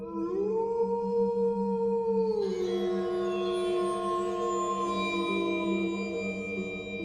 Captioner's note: wolf Howling